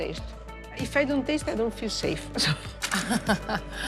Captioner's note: laughs